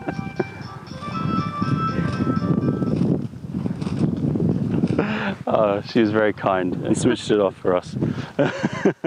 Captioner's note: laughter